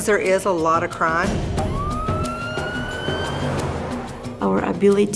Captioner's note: siren